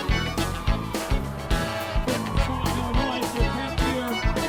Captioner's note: crowd cheering; happy accordion music